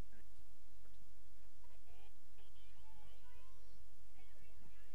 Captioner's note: feedback drowning out students